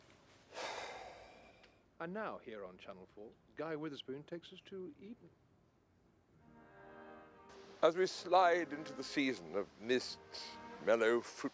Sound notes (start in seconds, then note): 0.5 Rob sighs